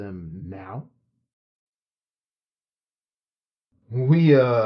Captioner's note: pause